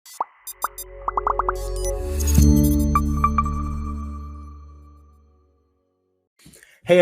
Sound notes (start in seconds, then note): 0.1 graphics popping; 0.1 graphics beeping; 2.4 bright music; 2.4 logo chimes